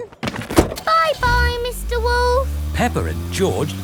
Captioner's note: engine starts